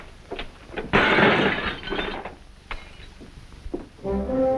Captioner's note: glass breaks